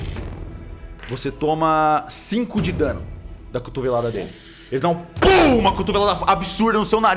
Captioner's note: pow